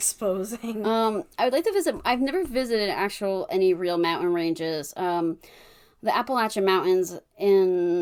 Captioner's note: laughs